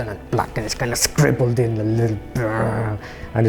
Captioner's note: growls